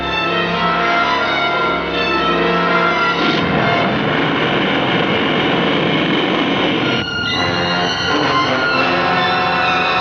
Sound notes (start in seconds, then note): 3.4 explosão ruge; 6.8 música dramática